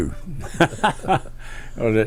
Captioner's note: laughs